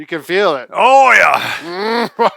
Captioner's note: grunting; chuckling